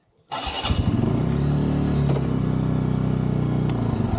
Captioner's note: engine starting; revving